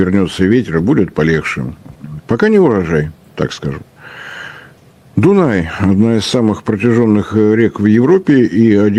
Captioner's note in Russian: вздыхает